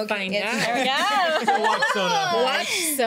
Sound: laughing

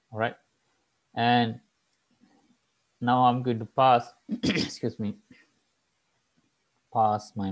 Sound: clears throat

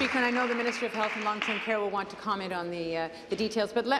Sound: applause

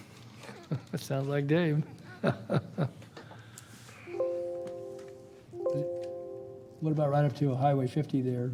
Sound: laughter

